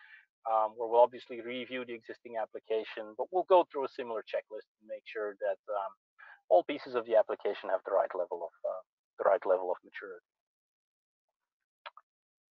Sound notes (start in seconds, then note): none